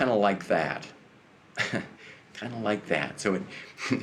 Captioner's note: chuckles